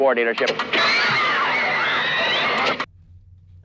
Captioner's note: girls Screaming